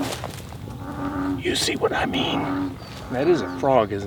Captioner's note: frog croaking; whispering